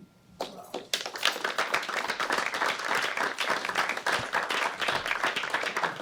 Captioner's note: applause